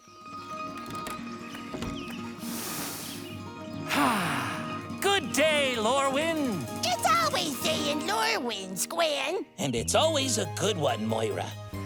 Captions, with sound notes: (birds chirping) (inhales) (exhales) Good day, Lorwyn. It's always day in Lorwyn, Squen. And it's always a good one, Moira.